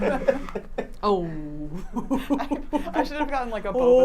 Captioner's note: laughs